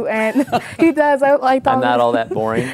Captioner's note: laughing